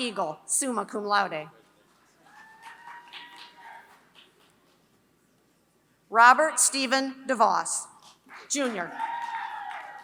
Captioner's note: applause